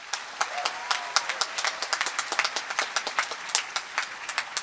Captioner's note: applause